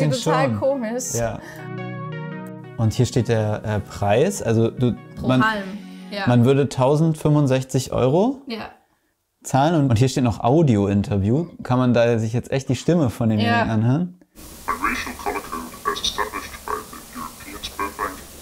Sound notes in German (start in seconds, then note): 14.6 Verzerrte Stimmte